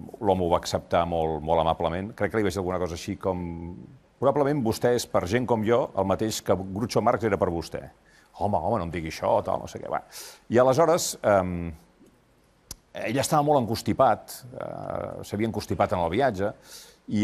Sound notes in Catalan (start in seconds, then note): none